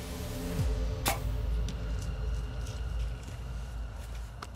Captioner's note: bow popping